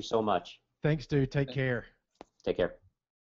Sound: voiceover

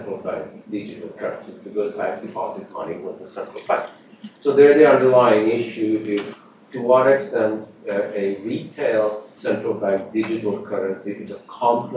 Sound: off mic

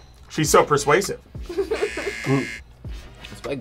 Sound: laughs; buzzer rings

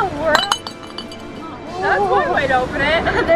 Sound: glass falling on stone

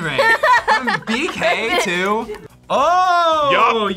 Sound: laughs

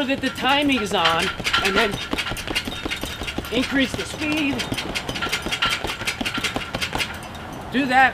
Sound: hit hit hit hit hit

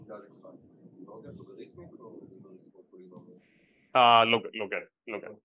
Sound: speaks faintly

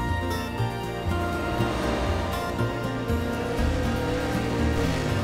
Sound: upbeat music; car engine roaring

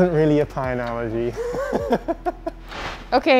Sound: laughs

